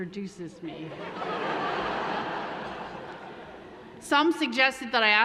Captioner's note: laughing